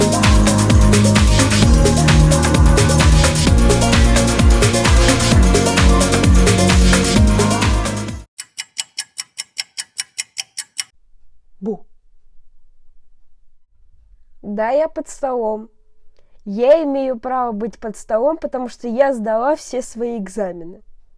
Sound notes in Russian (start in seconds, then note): 8.3 тиканье часов